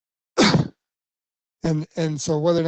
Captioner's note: coughs